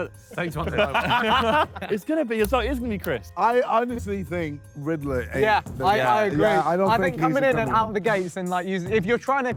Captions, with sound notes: [Sidemen laugh] - It's gonna be, so it is gonna be Chris. - I honestly think Ridler ain't the guy. - Yeah, like, I agree. I think coming in and out the gate, he seemed like if you're trying